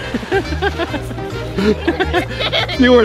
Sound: laughs loudly

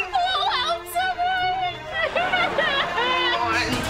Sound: crying

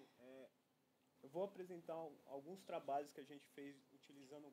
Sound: non-english speech

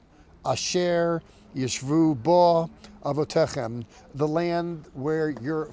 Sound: speaking in Hebrew

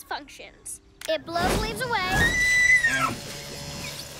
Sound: shrieks

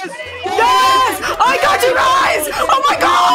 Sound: unintangible screaming

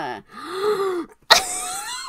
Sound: gasps, laughs

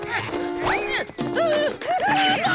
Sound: groaning

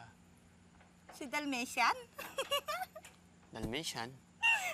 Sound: chuckles

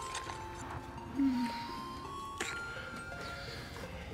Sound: woman moans

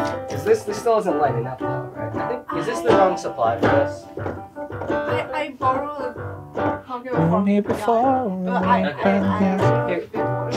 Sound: talk loudly

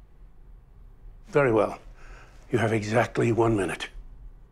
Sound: none

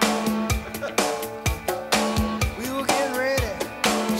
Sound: laughing

